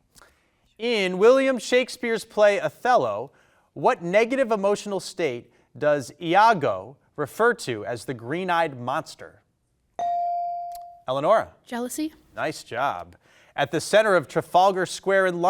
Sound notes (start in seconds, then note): 10.0 bell dinging